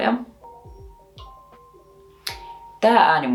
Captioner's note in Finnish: herätyskellon ääntä